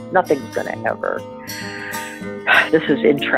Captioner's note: sighs